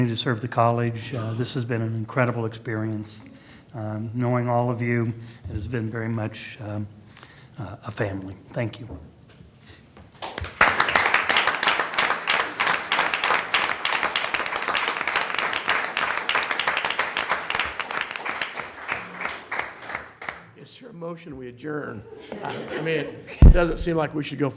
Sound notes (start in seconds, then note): 9.5 applause